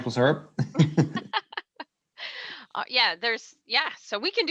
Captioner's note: and host laughing